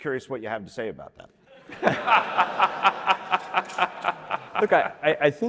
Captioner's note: laughter